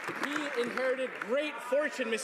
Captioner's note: some Applause